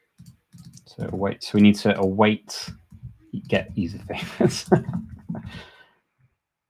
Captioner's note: laughs